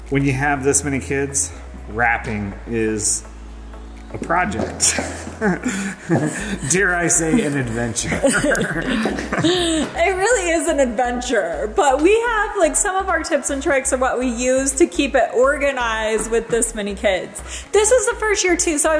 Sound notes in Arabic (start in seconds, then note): 4.8 كلاهما يضحك